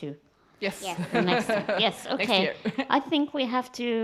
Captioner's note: audience laughs